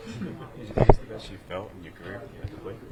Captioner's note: laughing